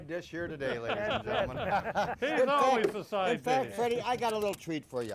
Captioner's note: men laughing